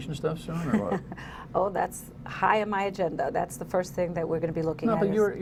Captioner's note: laughter